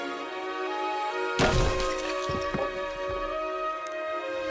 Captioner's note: bat cracking